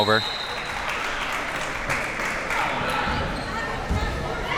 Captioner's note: applause